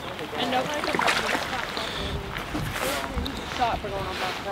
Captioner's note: women chatting